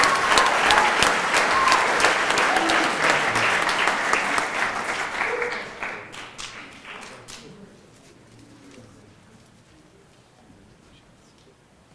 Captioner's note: cheering and Applause